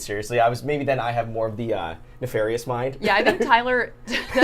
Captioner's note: laughs